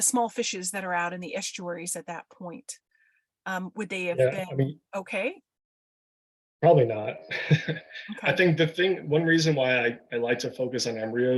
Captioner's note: chuckles